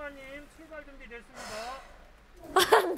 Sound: taking a deep breath

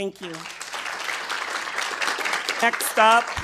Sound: attendees applauding

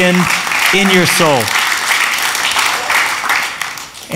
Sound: applause

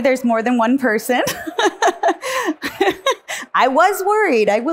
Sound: laughs

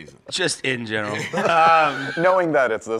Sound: laughs

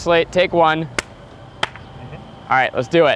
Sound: claps

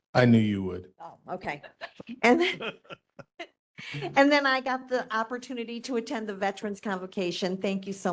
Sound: laughing

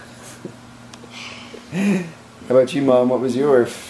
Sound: chuckles

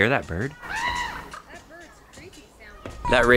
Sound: bird calling

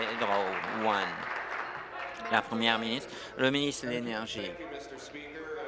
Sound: applause

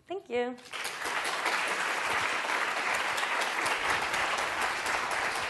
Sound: audience applauding

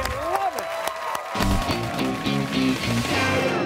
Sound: cheers and applause

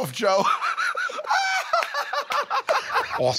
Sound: both laugh

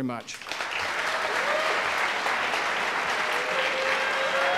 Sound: audience applauding

